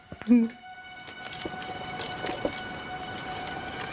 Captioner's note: wet footsteps